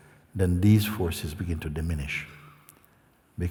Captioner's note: none